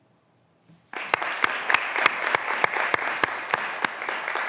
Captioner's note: graduands applauding